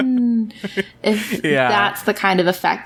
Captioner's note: laughs